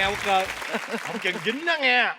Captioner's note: laughing